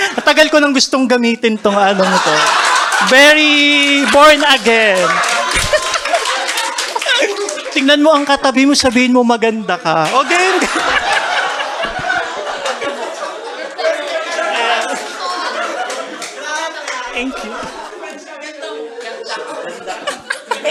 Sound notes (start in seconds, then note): 0.0 laughter; 2.0 burst of laughter; 5.2 laughter and claps; 10.0 laughter and claps